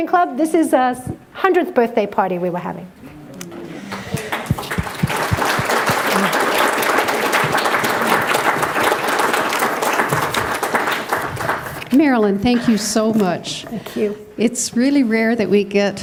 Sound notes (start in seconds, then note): 3.8 applause